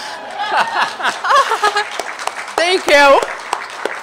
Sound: laughter

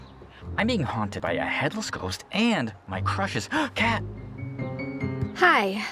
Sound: gasp

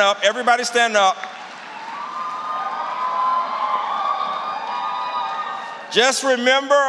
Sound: cheering

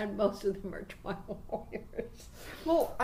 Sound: laughing

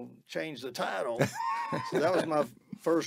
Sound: laughing

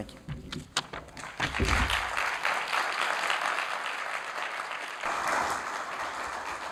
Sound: applause

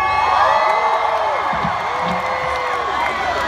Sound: crowd cheering

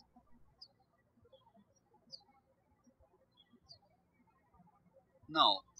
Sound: birds chirping

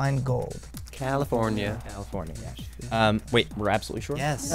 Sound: wispering

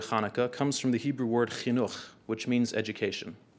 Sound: speaking in foreign language

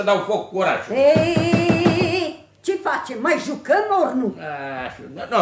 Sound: taps on the table

